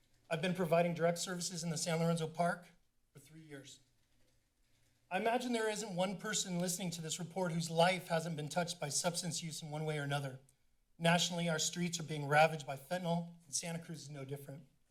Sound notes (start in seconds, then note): none